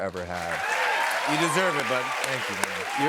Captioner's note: cheers and applause